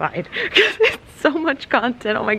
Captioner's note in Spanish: se ríe